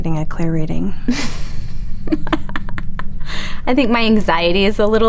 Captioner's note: Hillary laughing